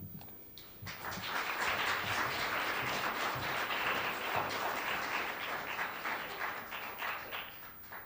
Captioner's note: applause